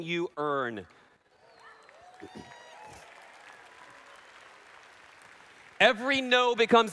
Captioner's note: applause